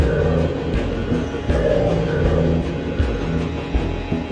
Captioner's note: rattling